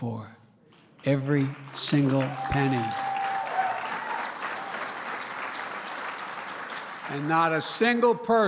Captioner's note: applause